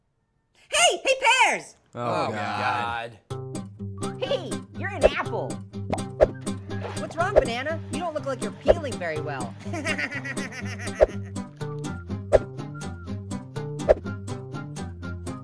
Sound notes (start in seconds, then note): 9.6 laughs